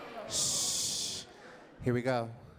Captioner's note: shushes crowd; audience laughs